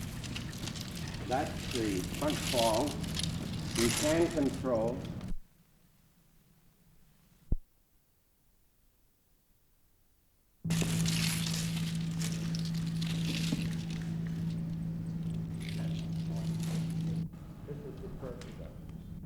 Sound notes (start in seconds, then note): 10.7 chain noises